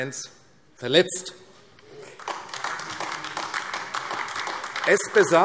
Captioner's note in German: Beifall AfD